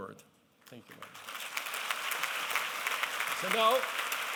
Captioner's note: applause